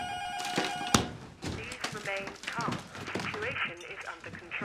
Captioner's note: intercom